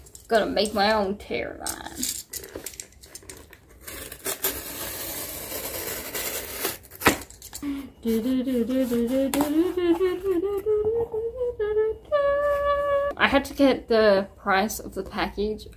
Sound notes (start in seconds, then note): 3.6 satisfying cardboard cutting sound; 7.8 singing the chest opening sound